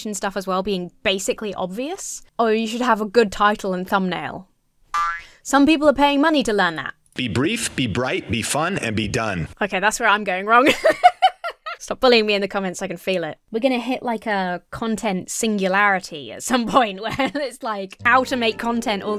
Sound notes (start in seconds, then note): 4.9 spring boings; 10.6 laughs; 18.0 mournful music